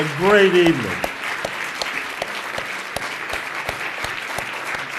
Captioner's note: audience applauds